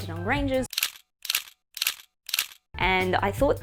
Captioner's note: camera clicking